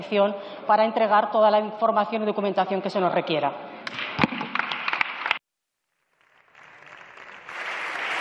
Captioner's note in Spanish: Aplausos